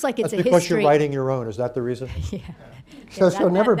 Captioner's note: laughs; laughter